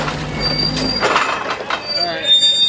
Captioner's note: forklift clunks; brakes squeal